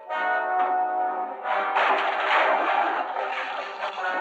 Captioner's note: wood breaking